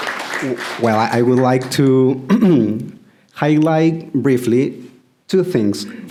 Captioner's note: applause